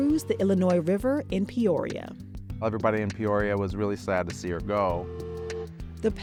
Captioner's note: steam whistle